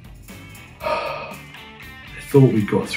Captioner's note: raunchy music; Jack sighs